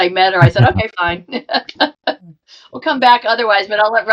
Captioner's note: laughing